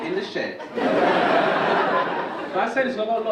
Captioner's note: audience laugh